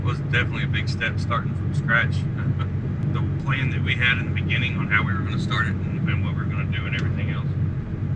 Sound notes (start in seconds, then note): 2.4 chuckling